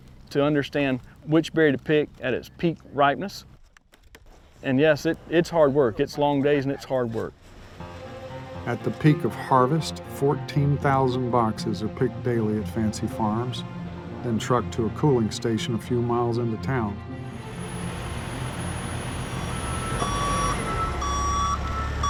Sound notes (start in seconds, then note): 17.4 machine honking